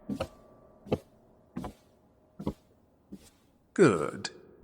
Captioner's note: sounds of footsteps coming closer